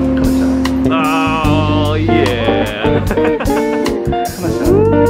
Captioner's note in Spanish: risas